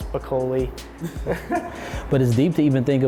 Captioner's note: laughing